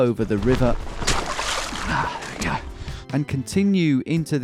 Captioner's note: water splashing